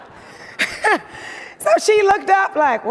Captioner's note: audience laughing; laughs